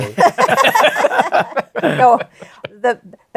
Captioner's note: laughter